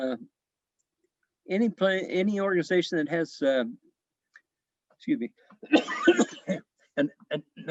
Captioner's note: coughs